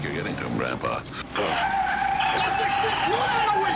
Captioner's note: tires screeching